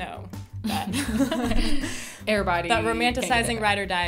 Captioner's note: both laugh